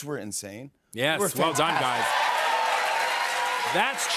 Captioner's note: cheers and applause